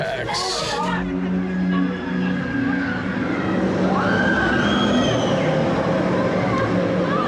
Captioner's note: riders screaming